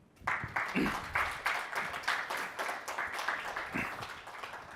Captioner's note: audience applauds